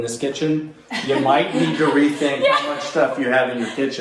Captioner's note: others laughing